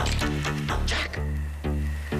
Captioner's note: whispers